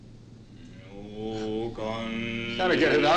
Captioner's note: chanting in foreign language